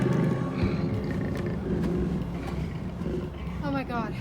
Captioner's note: faint growls